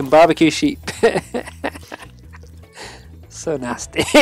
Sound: player laughs

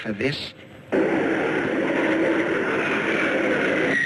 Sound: planes roaring

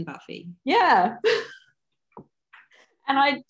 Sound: laughs

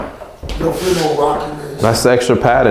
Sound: distant chatting

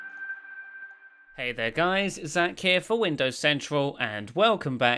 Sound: voiceover

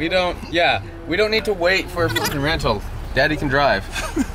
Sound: beep

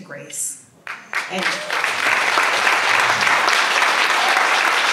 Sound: audience applauds

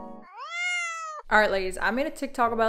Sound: harp strumming; cat meows

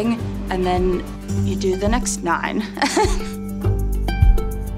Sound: laughs; gentle music

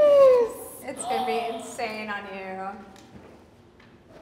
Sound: Sydney gasps

